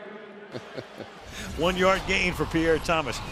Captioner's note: chuckles